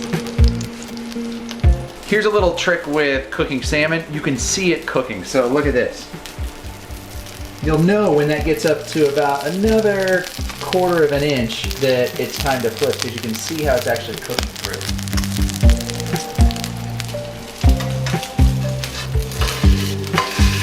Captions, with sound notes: Here's a little trick with cooking salmon, you can see it cooking, so look at this. You'll know when that gets up to about another 1/4 of an inch that it's time to flip because you can see how it's actually cooking through. (oil sizzling) (calming music)